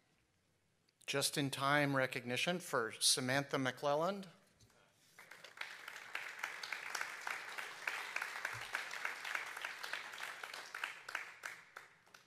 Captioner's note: applause